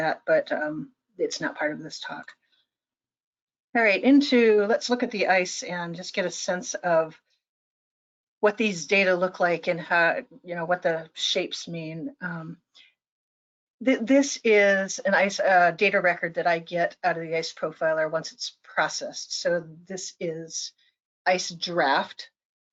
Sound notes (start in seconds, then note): none